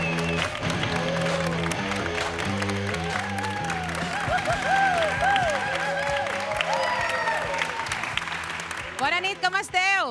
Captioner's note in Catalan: aplaudiments